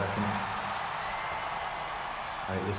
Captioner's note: audience cheers